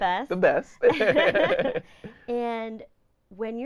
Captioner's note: laughing